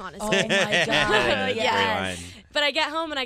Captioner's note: laughing